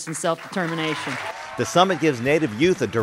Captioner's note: cheers and applause